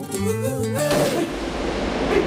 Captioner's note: Gunshot